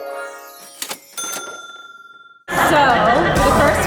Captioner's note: ding